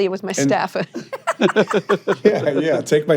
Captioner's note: hosts laughing